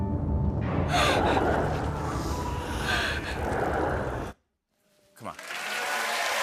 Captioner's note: gasps; cheers and applause